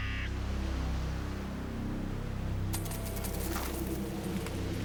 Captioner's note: bird cawing